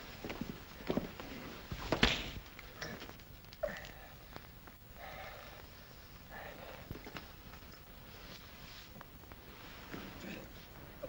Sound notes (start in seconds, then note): 1.9 crack; 4.9 heavy breathing